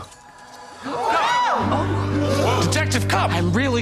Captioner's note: suspects scream